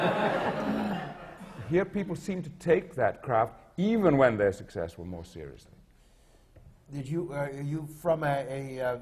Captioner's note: laughter